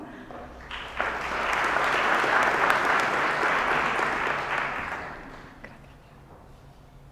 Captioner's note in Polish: oklaski